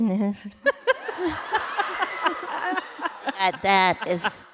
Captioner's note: laughter